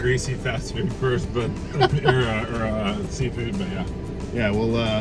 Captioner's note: chuckles